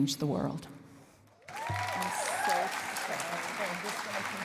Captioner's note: cheering and applause